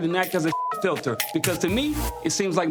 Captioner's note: beep